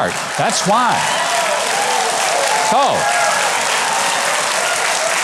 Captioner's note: audience claps and cheers